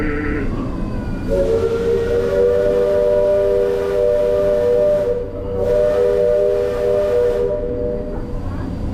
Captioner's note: steam whistles